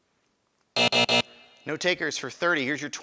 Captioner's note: buzzer